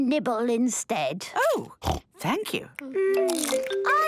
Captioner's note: snorting